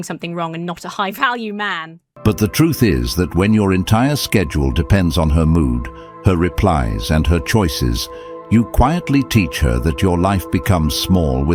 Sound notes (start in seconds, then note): 2.3 AI Voice